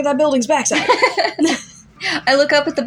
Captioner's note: laugh; chuckle